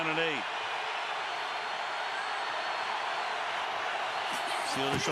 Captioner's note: crowd cheering